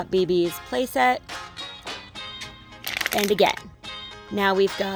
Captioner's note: crumpling sound